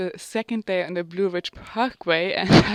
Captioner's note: chuckles